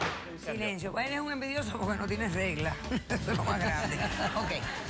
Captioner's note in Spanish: risas